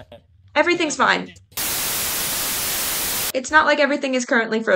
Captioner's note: static